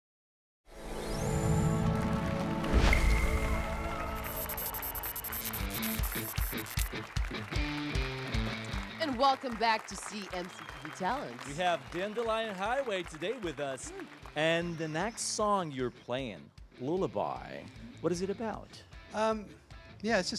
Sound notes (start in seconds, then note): 3.5 applause and cheers